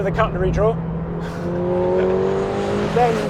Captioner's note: chuckles